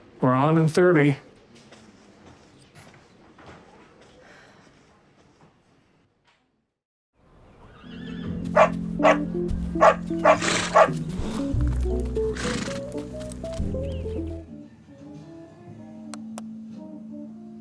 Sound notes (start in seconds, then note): 7.4 neighing, barking; 12.3 light music